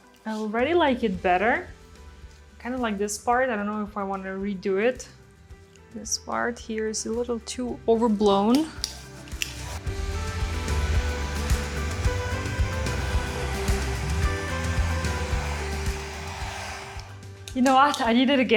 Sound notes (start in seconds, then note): 8.9 blow dryer hums; 9.8 uplifting music